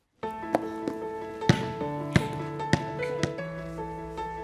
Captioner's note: basketball bouncing